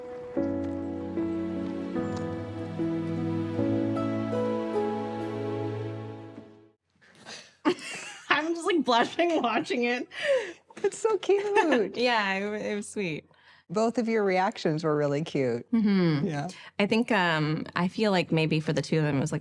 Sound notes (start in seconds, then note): 7.3 laughs